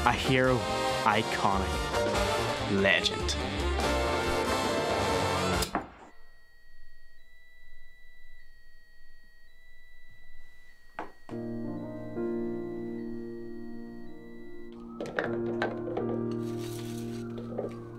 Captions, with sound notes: A hero Iconic Legend [ELECRITICY TRIPS] [ELECTRICITY METER BEEPS]